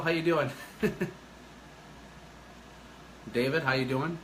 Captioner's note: laughing